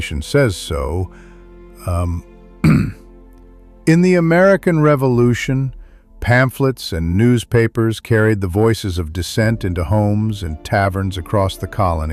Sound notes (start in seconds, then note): 2.6 clears throat